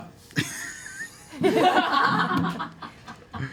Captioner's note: laughter